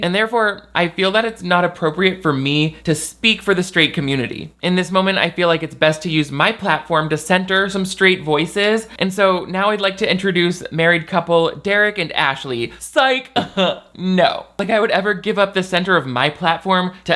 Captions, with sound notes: and therefore I feel that it's not appropriate for me to speak for the straight community. In this moment, I feel like it's best to use my platform to center some straight voices, and so now I'd like to introduce married couple Derek and Ashley. Sike, (chuckles) no. Like I would ever give up the center of my platform